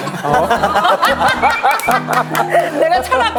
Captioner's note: ISFJ / INFJ / INFP Feelers bursting into laughter